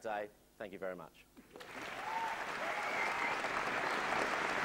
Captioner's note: applause